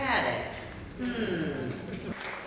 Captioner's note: audience grumbles